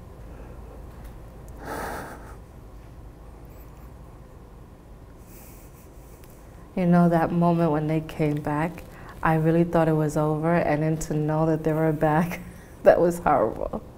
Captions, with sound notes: (sighs) - You know, that moment when they came back, I really thought it was over and then, to know that they were back, that was horrible.